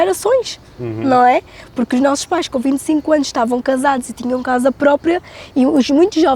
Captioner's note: speaking in Portuguese